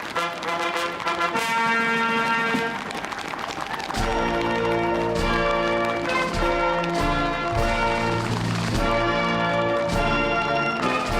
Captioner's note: applause; cheering